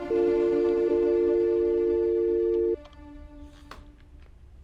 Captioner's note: phone rings